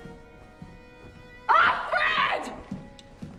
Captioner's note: shouting